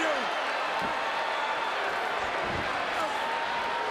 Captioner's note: crowd cheers